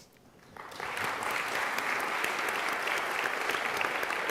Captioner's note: applause